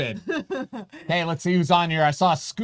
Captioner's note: laughing